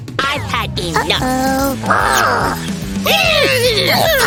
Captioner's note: shouting, grunting, and heavy breathing